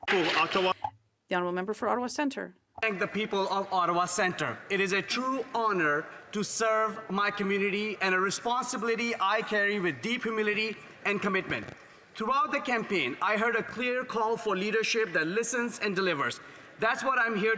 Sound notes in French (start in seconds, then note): 3.7 voix de l'interprète